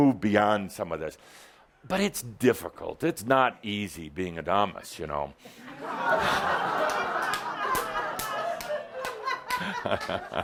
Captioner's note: laughter